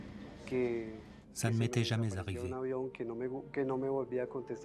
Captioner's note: speaks Spanish